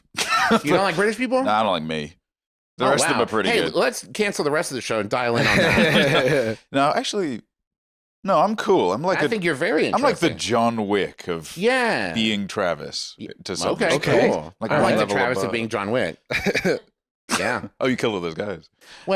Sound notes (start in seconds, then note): 16.3 laughs